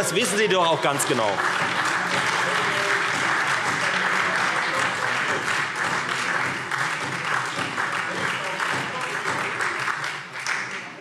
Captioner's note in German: Lebhafter Beifall Freie Demokraten und SPD - Zurufe SPD